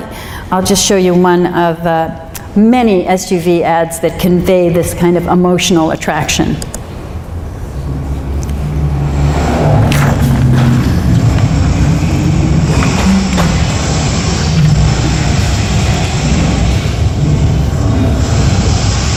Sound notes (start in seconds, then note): 14.1 wild animal and car noises